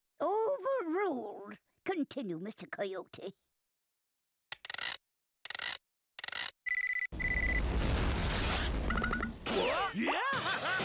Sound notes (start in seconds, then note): 4.5 whirring; 6.6 beeping